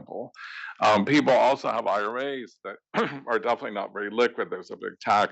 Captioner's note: cough